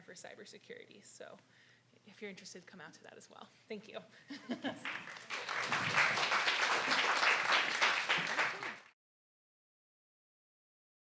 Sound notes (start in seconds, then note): 4.4 laughs; 4.8 claps